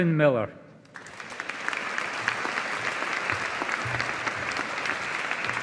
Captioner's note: audience applauding